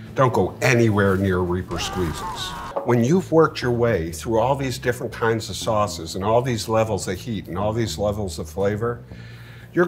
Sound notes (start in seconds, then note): 1.7 skull screaming